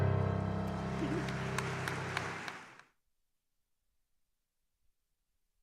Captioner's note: audience applause